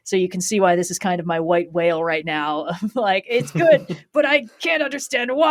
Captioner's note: laughs